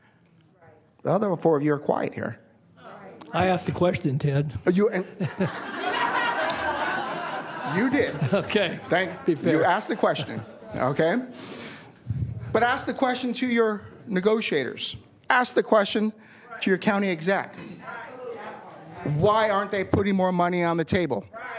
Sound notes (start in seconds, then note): 10.7 laughter